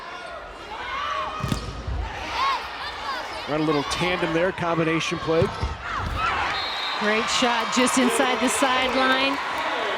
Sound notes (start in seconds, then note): 2.1 players yelling